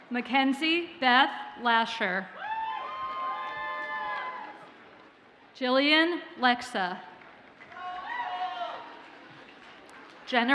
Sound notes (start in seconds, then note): 2.4 audience cheers; 7.6 audience cheers and applauds faintly